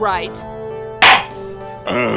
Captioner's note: gavel slams!